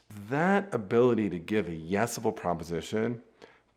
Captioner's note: none